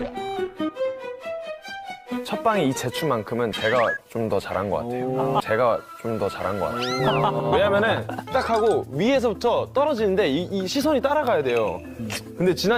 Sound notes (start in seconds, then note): 6.7 laughs